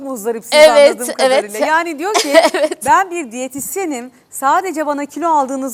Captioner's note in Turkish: kahkaha